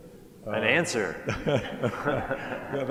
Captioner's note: laughs; laughter